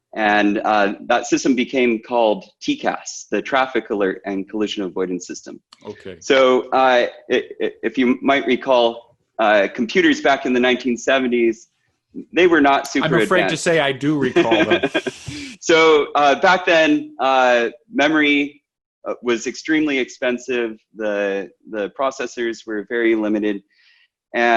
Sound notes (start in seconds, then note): 13.0 laughs